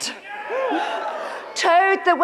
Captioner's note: audience cheers